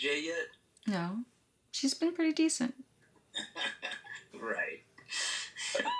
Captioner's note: laughs